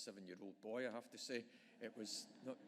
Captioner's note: audience laughing